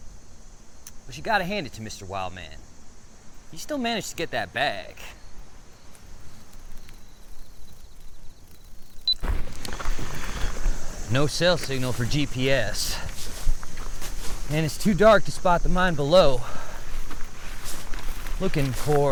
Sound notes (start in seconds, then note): 0.2 insects chittering; 5.7 camera beeps; 5.7 insects chittering; 10.1 footsteps crunching; 10.1 insects chittering; 13.6 footsteps shuffling; 17.1 footsteps crunching; 18.2 grass rustling